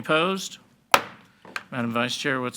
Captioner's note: gavel banging